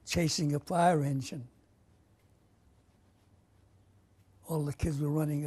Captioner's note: pauses for 3 seconds